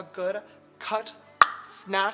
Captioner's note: tongue pop